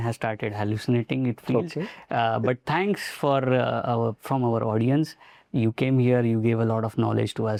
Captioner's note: humorous tone